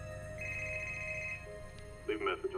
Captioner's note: telephone ringing